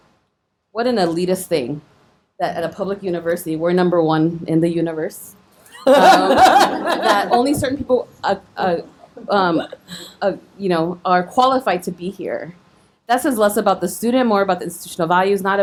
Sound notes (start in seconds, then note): 5.8 audience laughing